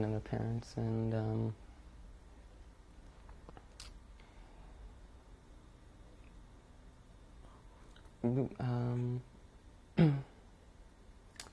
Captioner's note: pauses for 12 seconds